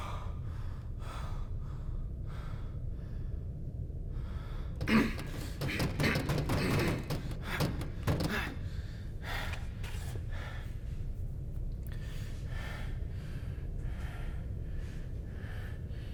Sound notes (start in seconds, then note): 5.0 Keith grunting; 11.9 heavy breathing